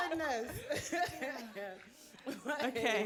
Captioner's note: audience laughing